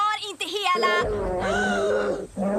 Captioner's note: growls